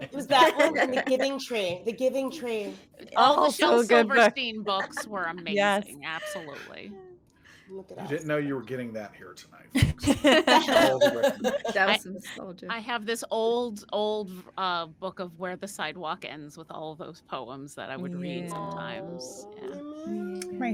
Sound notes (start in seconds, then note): 9.7 cast members laughing